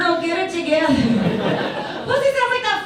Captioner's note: audience laughs